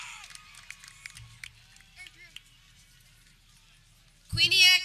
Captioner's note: people cheering